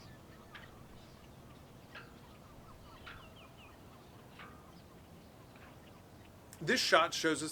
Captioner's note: birds chirping